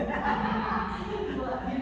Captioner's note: group laughs